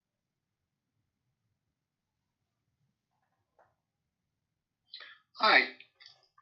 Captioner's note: silence